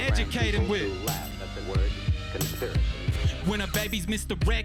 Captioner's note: voiceover